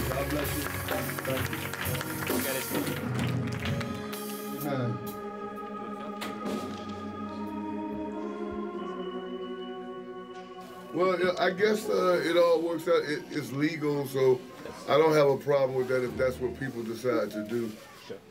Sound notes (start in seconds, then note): 4.1 congregation clapping